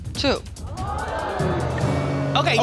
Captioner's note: audience gasping